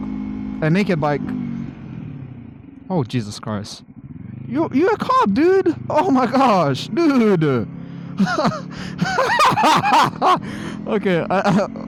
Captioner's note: laughs